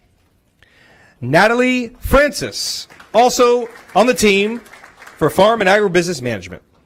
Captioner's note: applause